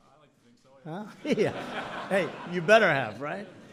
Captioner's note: laughter